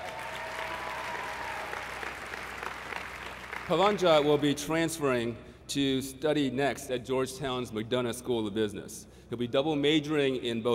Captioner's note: applause